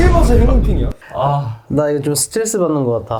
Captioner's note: sigh